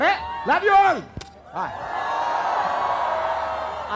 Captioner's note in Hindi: चियरिंग